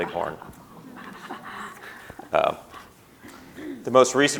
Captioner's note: chuckling